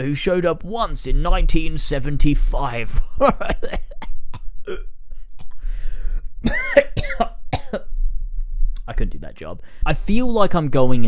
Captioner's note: coughs and splutters